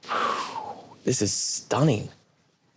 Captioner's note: sighs